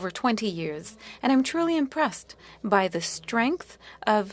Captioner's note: speaking French